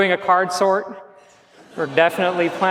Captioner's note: laughs